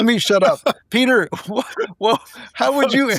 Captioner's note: laughing